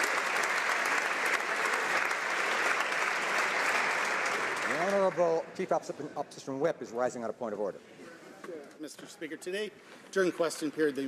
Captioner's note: applause